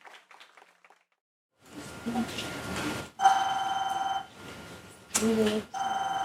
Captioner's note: audience applauding; phone ringing